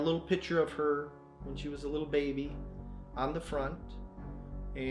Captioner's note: none